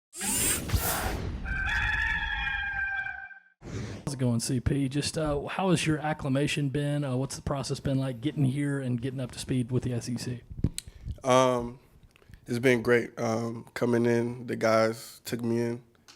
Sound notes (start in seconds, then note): 0.2 high pitched whoosh; 1.4 rooster crowing; 3.5 whoosh